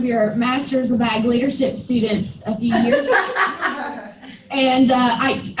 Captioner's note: laughter